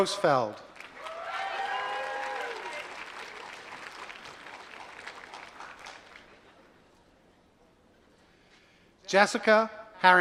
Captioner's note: applause